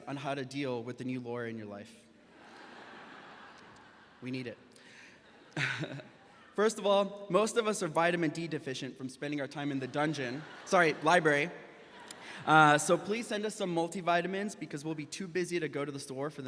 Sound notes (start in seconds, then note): 2.3 audience laughs; 5.6 laughs; 9.7 audience laughs